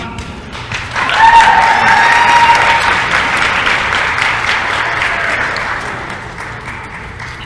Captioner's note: applause & cheering